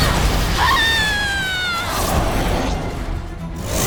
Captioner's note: screaming